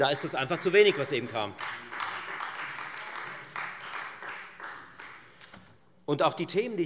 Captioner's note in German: Beifall Freie Demokraten